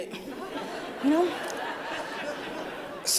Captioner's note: laughter